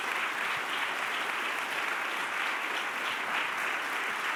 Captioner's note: applause